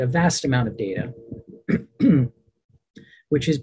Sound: clears throat

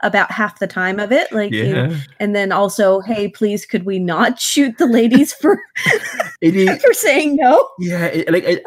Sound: both laugh

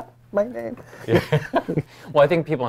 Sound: laughs

